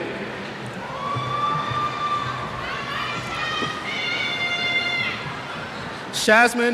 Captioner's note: cheers